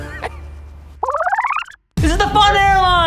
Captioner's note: laughs; film reversing